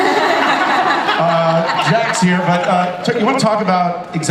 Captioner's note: audience and panelists laugh